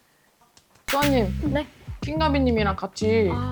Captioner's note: white noise; joking sound effect